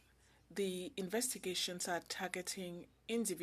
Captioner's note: speaking French